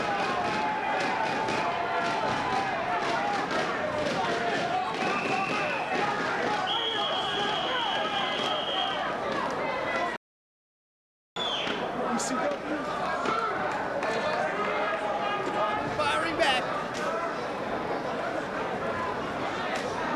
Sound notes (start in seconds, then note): 0.9 crowd tapping rhythmically; 6.7 whistling